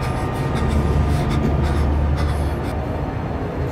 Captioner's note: whimpering